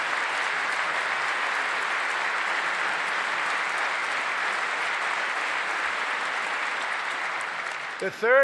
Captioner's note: applause